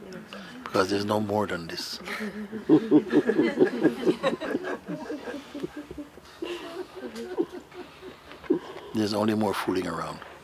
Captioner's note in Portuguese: suave riso